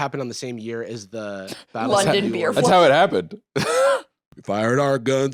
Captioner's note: laughs